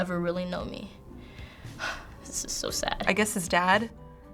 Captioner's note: sighs